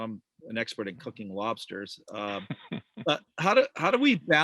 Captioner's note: chuckles